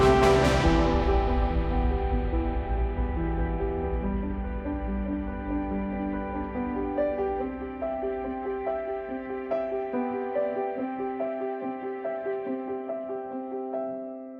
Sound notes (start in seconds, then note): 5.0 thunder